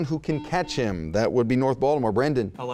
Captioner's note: buzzing